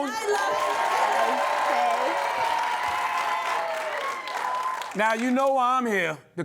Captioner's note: cheering and applause